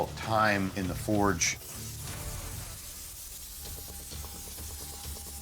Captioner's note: torch hissing